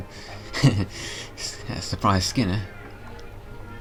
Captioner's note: laughing